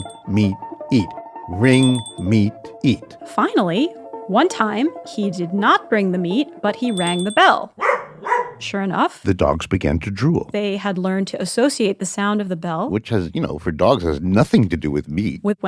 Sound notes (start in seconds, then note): 7.8 dog barking